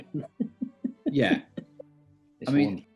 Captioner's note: giggling